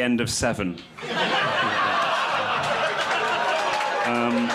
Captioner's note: crowd laughs